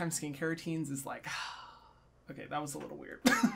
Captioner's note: sighs